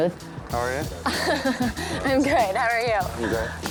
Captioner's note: laughs